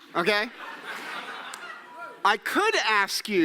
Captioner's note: audience laughing